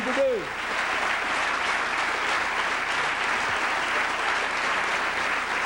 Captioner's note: applause